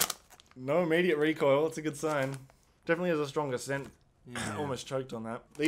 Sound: cough

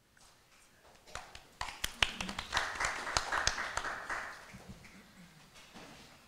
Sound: applause

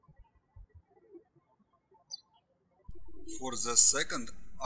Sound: birds chirping

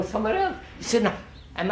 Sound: laughs

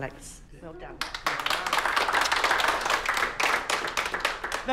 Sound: clapping

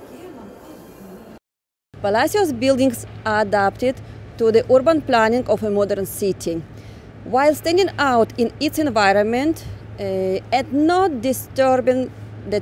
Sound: traffic noise

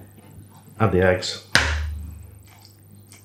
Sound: splat

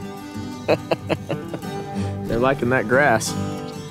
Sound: laughs

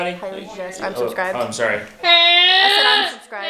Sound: growling

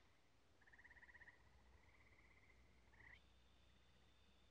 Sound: crickets chirping

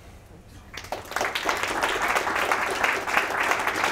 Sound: applause

